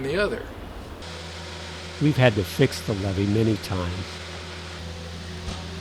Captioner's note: machinery noise